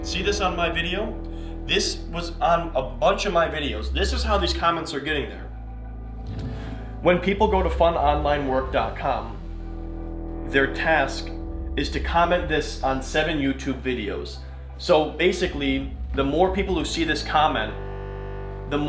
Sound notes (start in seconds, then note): none